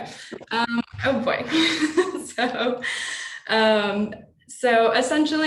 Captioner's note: laughing